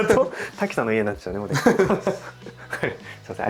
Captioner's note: laughs